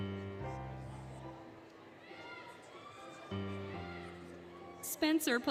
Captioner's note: cheering, Music